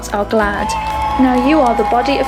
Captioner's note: crowd cheers